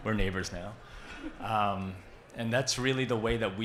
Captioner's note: audience laughs